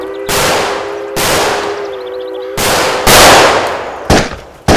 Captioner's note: train whistle blowing